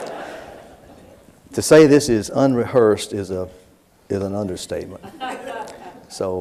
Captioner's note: laughter